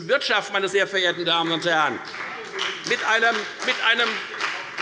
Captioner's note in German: Beifall bei der FDP